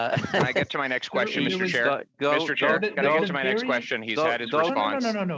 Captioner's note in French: voix de l'interprète